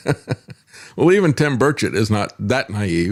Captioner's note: laughs